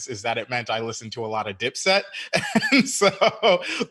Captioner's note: laughing